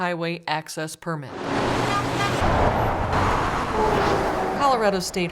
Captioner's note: sounds of cars driving and honking